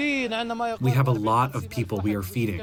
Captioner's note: through translator